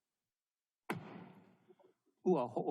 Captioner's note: gavel bangs once